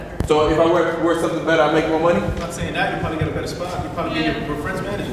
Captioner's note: crowd talking over each other